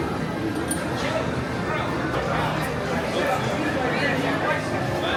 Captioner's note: crowd murmuring